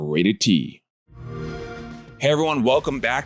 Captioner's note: xbox sound